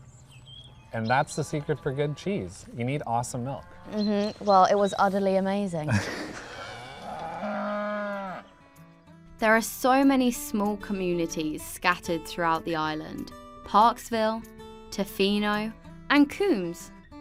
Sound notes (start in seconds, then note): 5.8 laughs; 6.4 cow moos